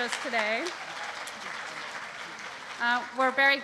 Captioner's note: applause